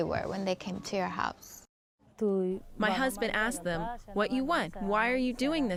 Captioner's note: through translator